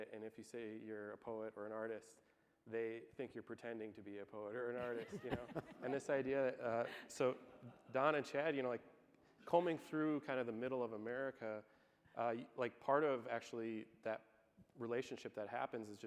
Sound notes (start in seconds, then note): 4.8 laughing